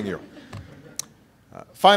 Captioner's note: laughter